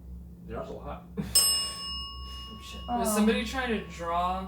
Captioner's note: bell dings